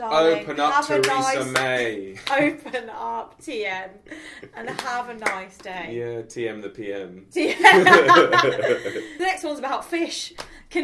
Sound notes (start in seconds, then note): 4.1 giggling; 7.5 both laugh